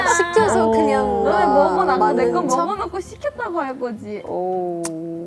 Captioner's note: disappointed